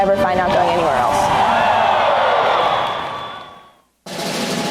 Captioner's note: crowd cheering